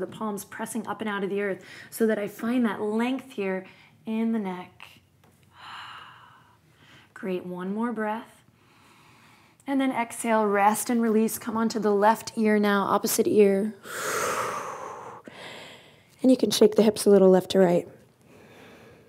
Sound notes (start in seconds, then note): 5.4 exhales; 13.8 exhales